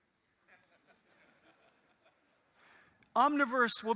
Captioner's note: audience laughing